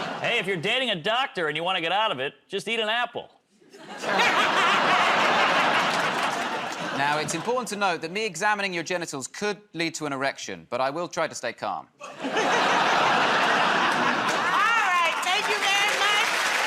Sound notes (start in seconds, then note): 3.7 laughter; 12.0 laughter